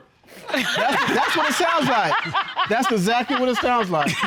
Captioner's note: all laughing